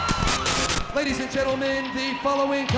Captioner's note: graphics hissing; static crackling; crowd cheering